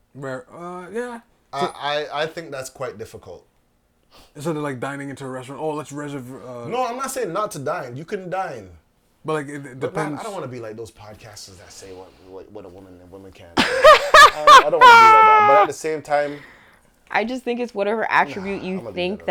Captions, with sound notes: Right...uh Yeah. I think that's quite difficult. Instead of like dining into a restaurant? "Oh, let's reservoir--" No, I'm not saying not to dine. You can dine. But I don't want to be like those podcasts that say what a woman and a woman can. [LAUGHTER] I don't want to be like that. But at the same time-- I just think it's whatever attribute you think